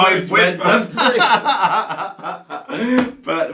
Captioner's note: laughs